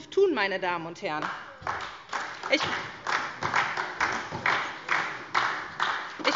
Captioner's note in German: Beifall